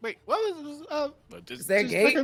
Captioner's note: stuttering